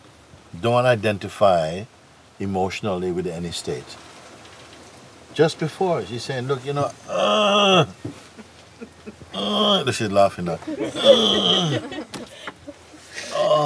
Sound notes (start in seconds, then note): 9.2 sound of frustration; 10.4 laughs